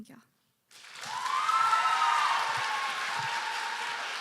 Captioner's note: applause